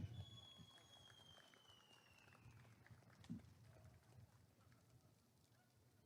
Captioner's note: applause and cheering